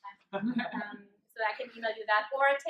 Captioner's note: laughter